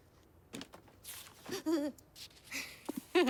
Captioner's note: Mary gasps; Mary laughs